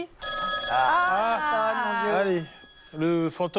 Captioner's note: phone rings